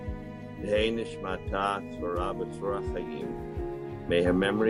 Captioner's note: in Hebrew